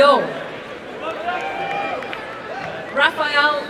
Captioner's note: applause and cheering